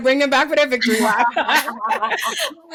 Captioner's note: laughing